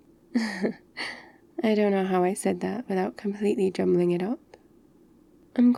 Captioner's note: laughs